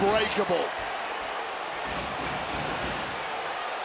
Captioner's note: crowd cheers